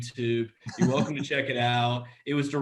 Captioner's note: laughs